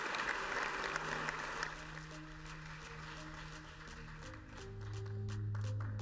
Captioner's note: applause